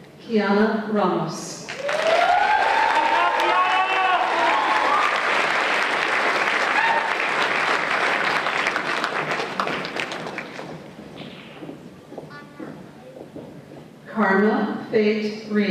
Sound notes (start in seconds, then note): 1.7 applause and Cheers